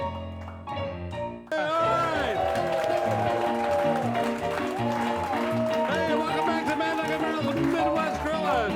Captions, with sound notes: (crowd cheering) (upbeat piano music) - Hey, welcome back to Mad Dog and Merrill's